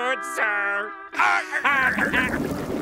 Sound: laughing

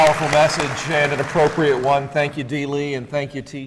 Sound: applause

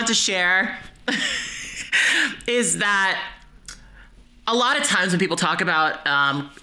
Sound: chuckles

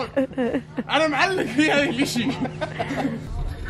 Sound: laughs

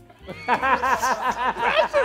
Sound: laughing

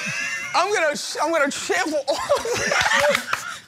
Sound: slurs excessively; laughter

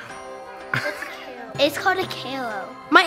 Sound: laughs

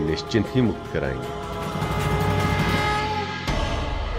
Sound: conch blows

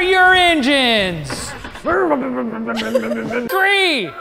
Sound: mocking car noises

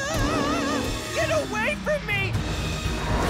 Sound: roars

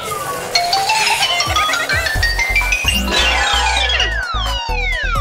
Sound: Gigglebot laughs

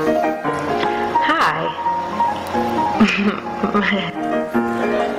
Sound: laughs nervously

